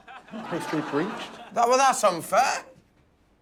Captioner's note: laughter